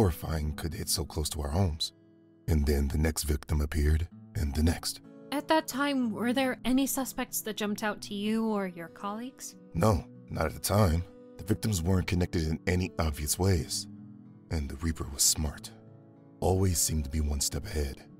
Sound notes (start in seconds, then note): none